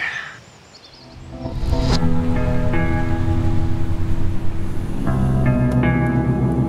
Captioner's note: light dramatic music; car engine rumbling